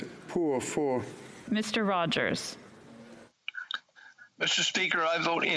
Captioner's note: speaking French